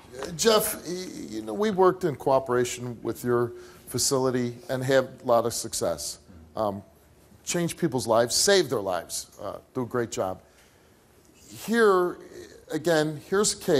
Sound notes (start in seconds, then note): none